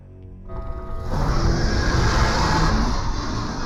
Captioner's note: roars; dramatic music